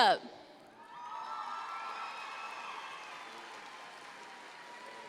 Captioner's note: audience cheers